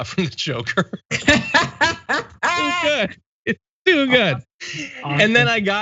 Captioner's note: laugh